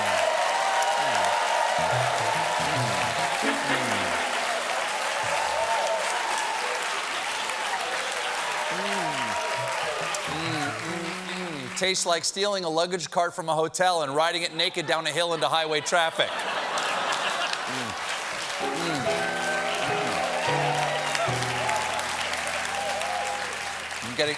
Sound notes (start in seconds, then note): 1.8 piano riff; 3.1 applause; 18.6 piano riff; 18.6 cheers and applause